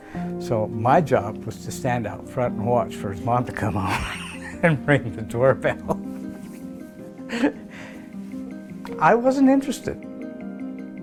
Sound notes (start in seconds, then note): 3.7 chuckles